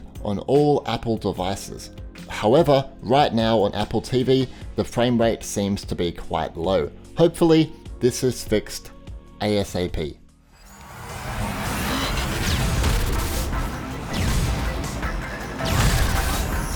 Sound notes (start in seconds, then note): 10.6 upbeat music; 10.9 electronic blasting